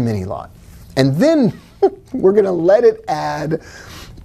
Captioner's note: giggling